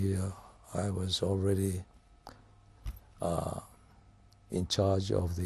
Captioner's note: pauses for 3 seconds